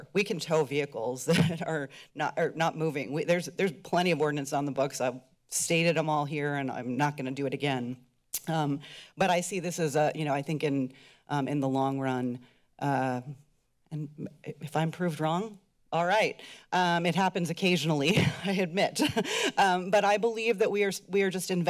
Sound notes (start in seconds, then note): 19.0 laughs